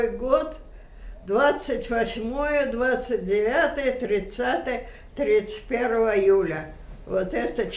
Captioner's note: counting